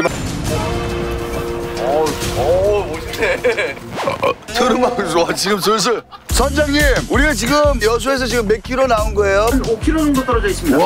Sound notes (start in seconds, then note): 3.6 burps